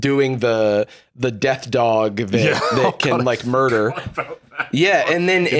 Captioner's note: laughing